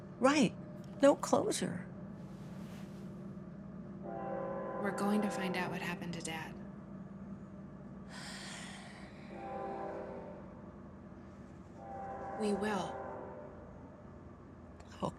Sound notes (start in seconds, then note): 2.3 faint sound of train approching; 8.1 Francine sighs